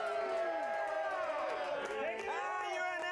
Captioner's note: audience cheering